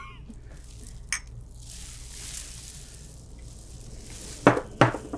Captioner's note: glasses clink